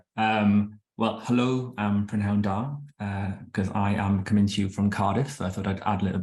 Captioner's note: speaking Welsh